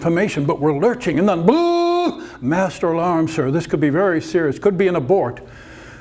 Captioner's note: alarm noise